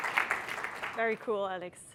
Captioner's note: applause